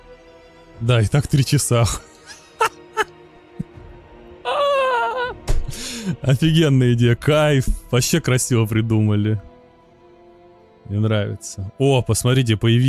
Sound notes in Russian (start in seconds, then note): 2.1 смех